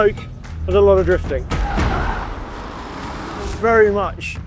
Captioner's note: vehicle revs